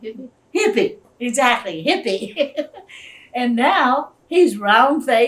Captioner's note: laughs